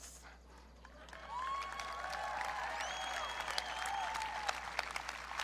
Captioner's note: audience cheering